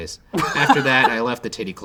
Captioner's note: laughing